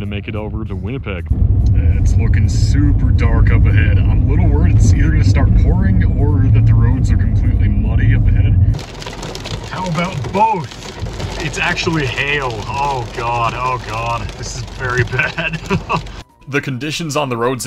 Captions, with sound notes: make it over to Winnipeg. It's looking super dark up ahead. I'm a little worried it's either gonna start pouring or that the roads are completely muddy up ahead. (heavy rain noises) How about both?! It's actually hail! Oh God, Oh God, this is very bad! (laughs) The conditions on the roads